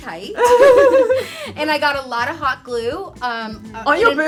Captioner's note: women laughing